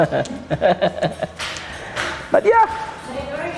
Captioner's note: laughing joyfully